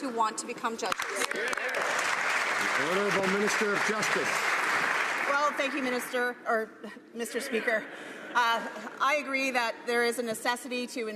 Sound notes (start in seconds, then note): 4.8 some Applause